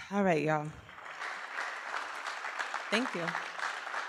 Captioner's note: applause